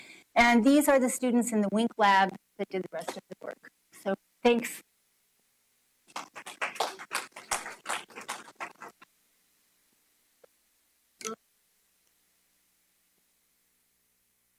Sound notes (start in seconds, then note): 2.5 applause